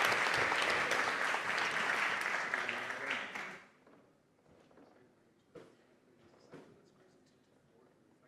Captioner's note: applause